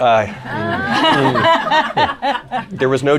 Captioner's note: laughter